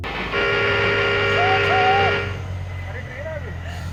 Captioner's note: chooo Chooo